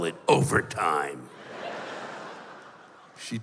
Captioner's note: laughter